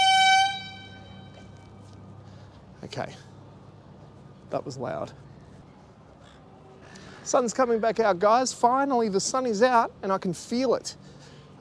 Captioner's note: horn beep